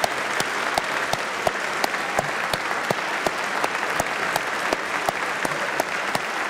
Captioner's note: applause